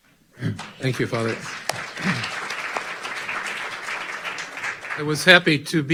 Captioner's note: audience clapping